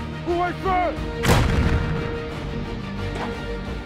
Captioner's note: cannon shot